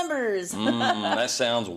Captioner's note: laugh